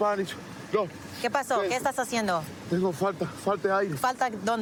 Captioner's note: speaking spanish